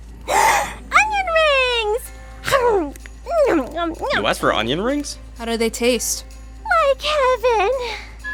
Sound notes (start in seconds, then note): 0.2 gasps; 2.4 eating noises